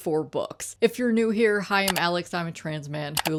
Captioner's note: mouse click